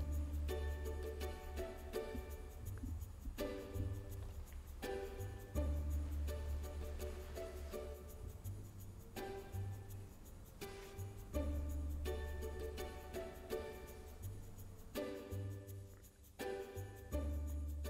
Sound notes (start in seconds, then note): none